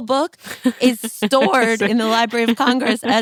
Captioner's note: laughs